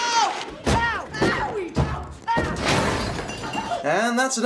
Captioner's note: kid bangs down the stairs; glass smash